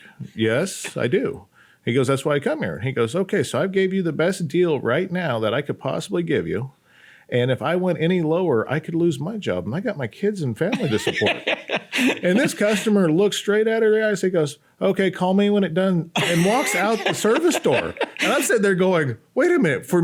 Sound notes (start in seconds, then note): 10.7 laughs; 16.1 laughs